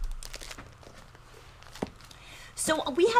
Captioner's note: plastic crinkling